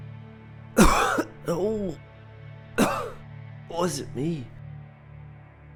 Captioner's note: coughs